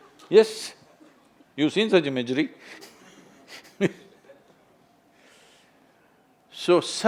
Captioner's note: laughs